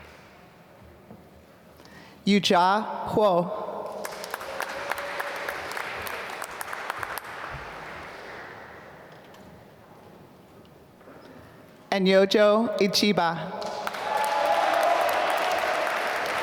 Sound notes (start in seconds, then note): 4.0 applause; 13.6 applause